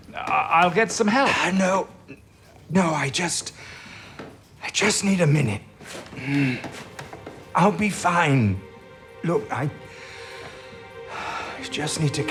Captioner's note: deep breaths